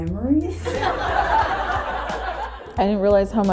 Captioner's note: laughter